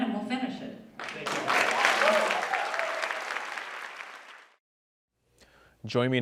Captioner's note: applause